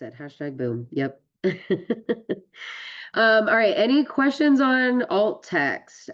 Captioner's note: laughs